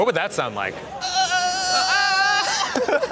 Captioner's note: whines; laughs